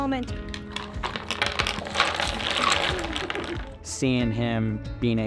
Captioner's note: crayons clattering